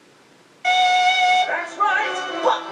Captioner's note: TV static